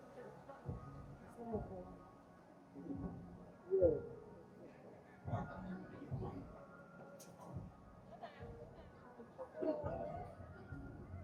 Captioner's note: people chattering